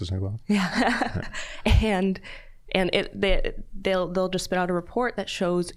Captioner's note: laughing